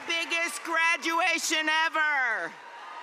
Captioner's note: cheers and applause